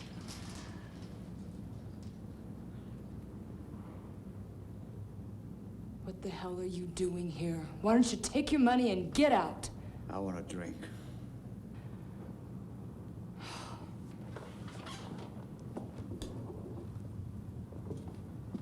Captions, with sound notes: - What the hell are you doing here? Why don't you take your money and get out? - I want a drink. (Sis sighing)